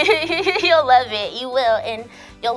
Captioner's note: laughs